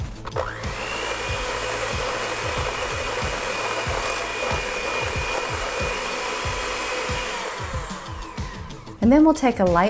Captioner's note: blender motor whirling sound